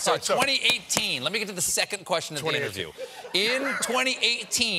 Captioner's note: laughter